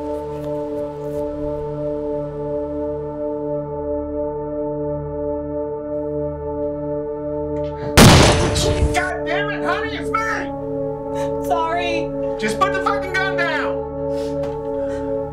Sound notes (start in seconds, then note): 7.8 gunshot; 15.0 sobbing